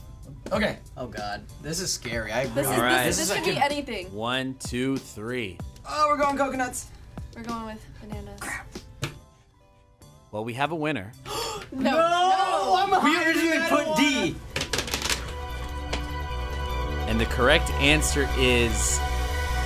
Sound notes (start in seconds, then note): 11.2 gasps; 14.1 suspenseful music